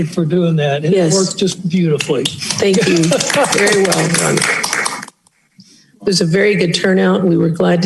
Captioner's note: applause